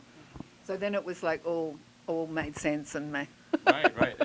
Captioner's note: laughs